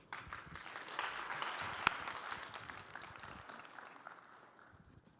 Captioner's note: applause